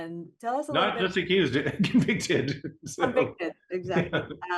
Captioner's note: laughing